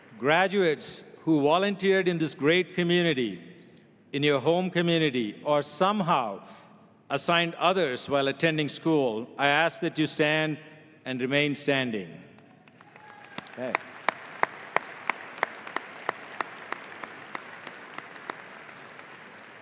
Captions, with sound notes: Graduates who volunteered in this great community, in your home community, or somehow assigned others while attending school, I ask that you stand and remain standing, okay. (audience applauding)